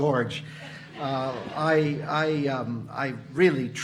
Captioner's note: audience laughing